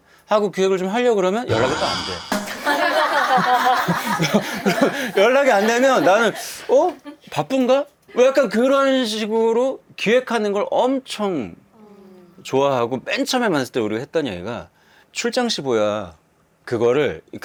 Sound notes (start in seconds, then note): 4.2 nervous laugh